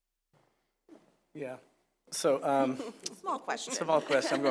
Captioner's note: laugh